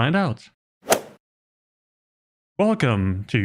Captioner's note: golf ball hit sound effect